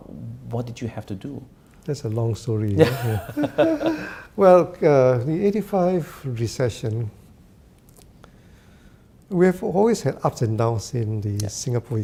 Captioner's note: both laugh